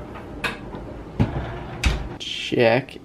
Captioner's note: door closing